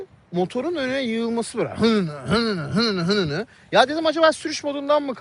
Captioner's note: hmph